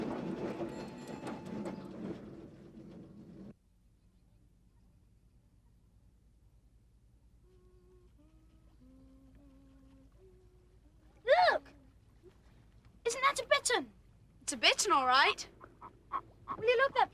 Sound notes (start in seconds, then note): 7.4 Barrable humming